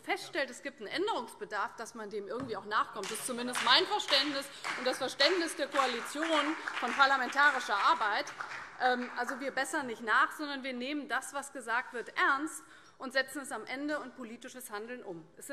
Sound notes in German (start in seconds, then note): 8.1 Beifall CDU und vereinzelt BÜNDNIS 90/DIE GRÜNEN